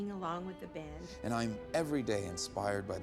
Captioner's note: oliver, reading